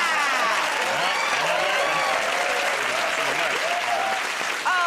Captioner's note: cheers and applause